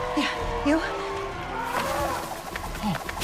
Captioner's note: pterosaur calls